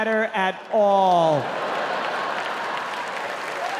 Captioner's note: audience laughing; audience clapping